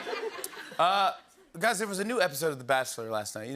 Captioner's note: normal voice